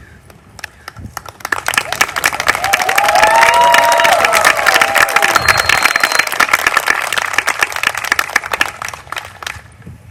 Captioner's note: applause